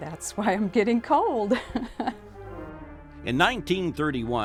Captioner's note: laughs